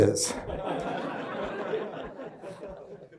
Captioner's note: crowd laughter